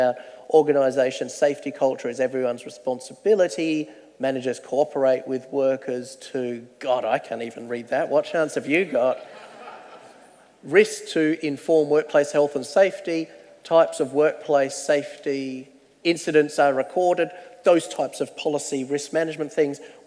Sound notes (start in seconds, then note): 9.1 audience laughter